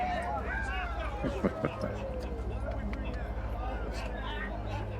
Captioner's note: Two Moons chuckling; soft tense music